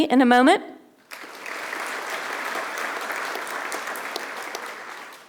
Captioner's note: audience applauding